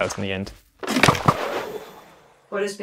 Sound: playful sounds

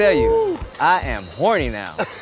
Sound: laughing

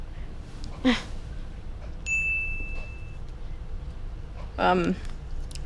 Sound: B laughs, Z's phone DINGS

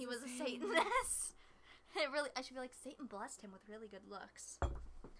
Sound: giggles

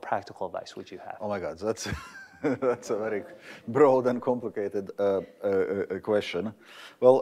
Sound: laughter

